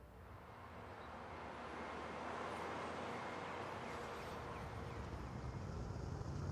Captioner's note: traffic droning; birds chirping